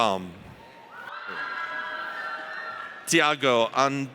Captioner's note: audience cheers